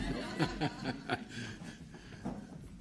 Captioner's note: laughter